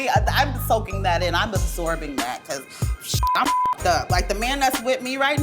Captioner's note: beep